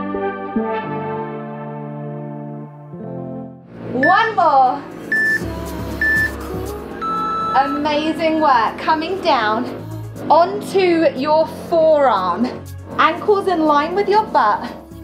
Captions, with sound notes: One more. (timer beeping) Amazing work, coming down onto your forearm, ankles in line with your butt,